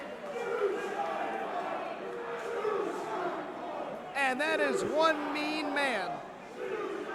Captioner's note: crowd cheering